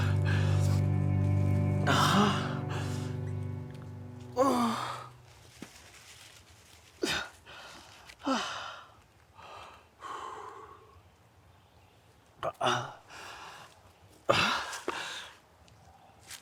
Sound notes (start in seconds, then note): 4.3 Arawn groaning; 9.3 Arawn breathes uneasily